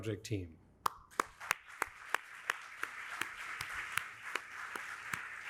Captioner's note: audience applauding